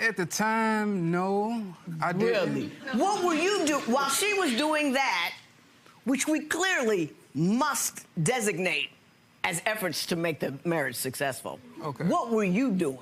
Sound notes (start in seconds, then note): 3.3 audience laughter